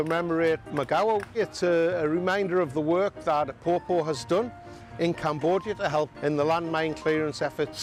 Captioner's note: applause